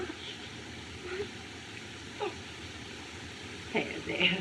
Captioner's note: moans